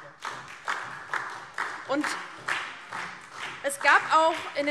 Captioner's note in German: Beifall DIE LINKE und SPD